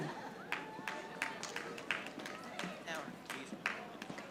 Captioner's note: audience applauding